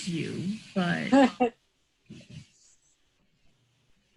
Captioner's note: laughing